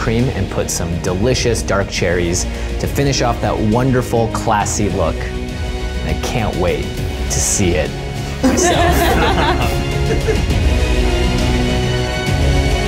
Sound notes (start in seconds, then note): 8.4 laughs; 10.0 rousing music